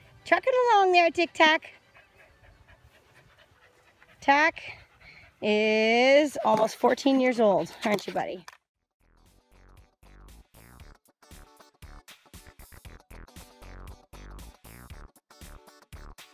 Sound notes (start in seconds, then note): 2.5 dog panting; 9.4 upbeat pop music